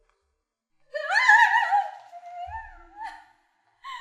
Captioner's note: screams